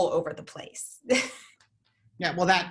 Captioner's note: chuckles